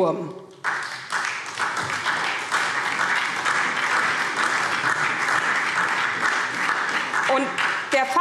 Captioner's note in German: Beifall SPD und DIE LINKE